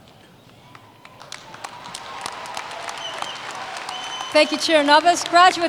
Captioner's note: cheers and Applause